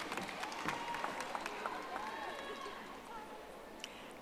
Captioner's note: audience applauding